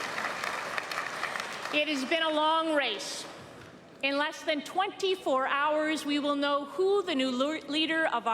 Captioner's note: applause